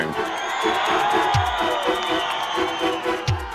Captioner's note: crowd cheering